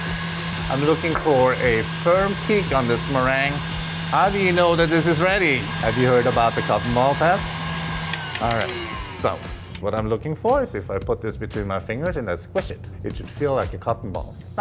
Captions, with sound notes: I'm looking for a firm peak on this meringue. How do you know that this is ready? Have you heard about the cotton ball test? All right, so, [mixer slows] what I'm looking for is if I put this between my fingers and I squish it, it should feel like a cotton ball.